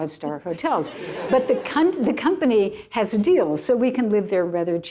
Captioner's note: laughter